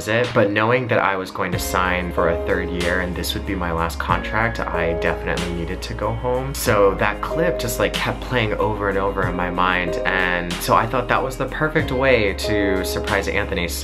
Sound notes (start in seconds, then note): none